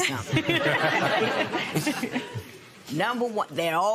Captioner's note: laughter